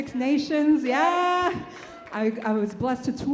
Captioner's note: audience cheers